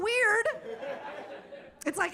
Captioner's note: audience laughing